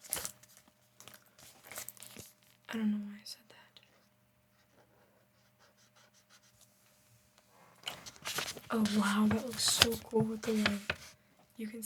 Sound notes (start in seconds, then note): 6.9 silence